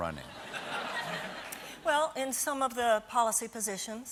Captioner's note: laughter